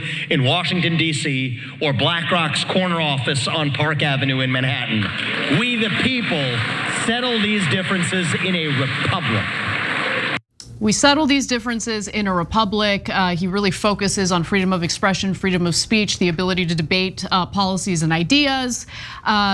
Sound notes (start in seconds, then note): 4.9 applause